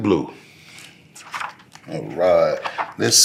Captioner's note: pages rustling